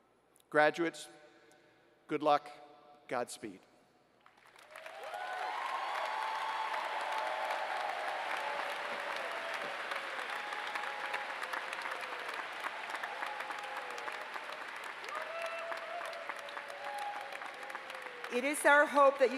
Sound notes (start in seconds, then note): 4.2 applause